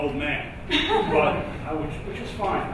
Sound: audience laughs

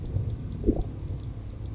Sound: mouse clicking rapidly

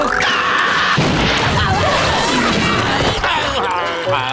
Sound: screaming; groaning

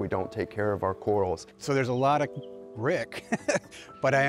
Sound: laughs

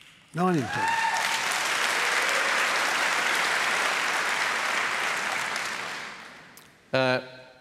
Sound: cheering

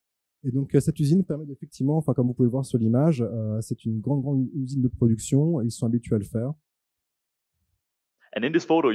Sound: translating into french

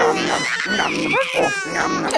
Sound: person eating; child exclaiming

